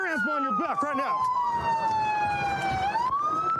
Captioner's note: sirens blaring